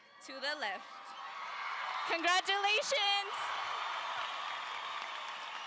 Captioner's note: audience cheers